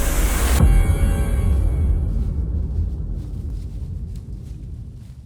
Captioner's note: footsteps pattering